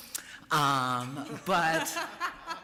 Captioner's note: laughter